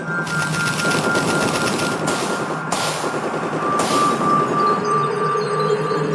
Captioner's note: guns firing; chiming music